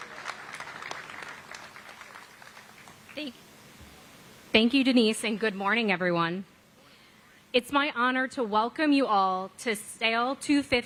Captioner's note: applause